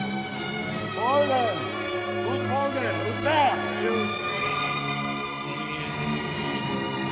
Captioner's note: speaking foreign language over music playing